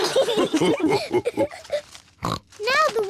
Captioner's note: all laugh